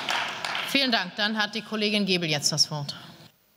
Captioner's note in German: Beifall